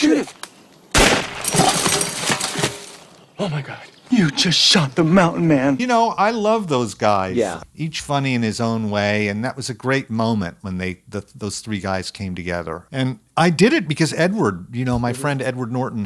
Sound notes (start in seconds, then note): 0.9 gun shot; 1.4 clanging pots